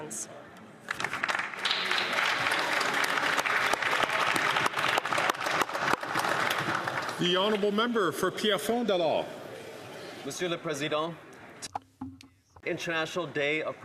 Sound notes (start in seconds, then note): 4.4 some Applause